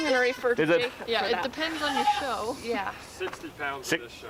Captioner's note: chuckles